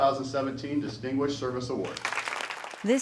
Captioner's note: applause